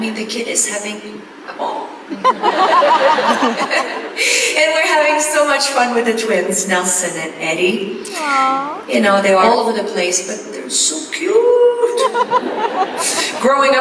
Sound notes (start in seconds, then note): 2.1 laughs; 2.2 audience laughs